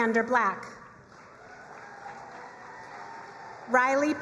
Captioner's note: crowd cheering and applauding